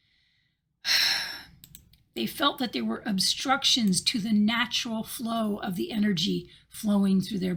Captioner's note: sigh